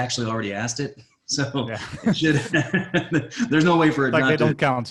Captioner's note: laughing